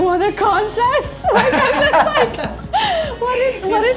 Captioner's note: laughing